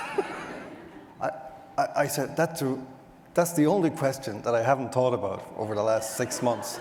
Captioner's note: more audience laughter